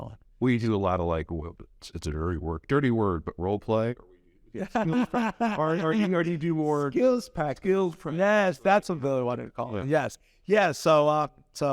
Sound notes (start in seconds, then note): 4.6 laughs